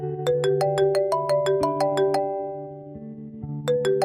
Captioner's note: phone ringing